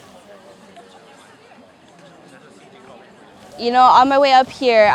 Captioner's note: people talking